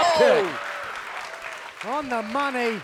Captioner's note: crowd claps